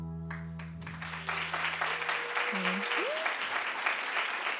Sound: audience applauding

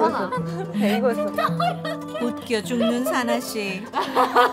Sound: they keep laughing because of the 'hair' in the nose

